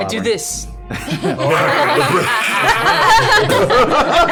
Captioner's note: dying noise